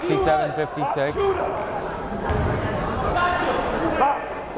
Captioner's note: yelling